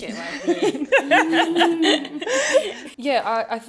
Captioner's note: laughter